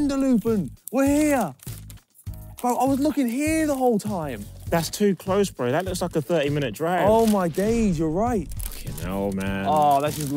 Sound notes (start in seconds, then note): none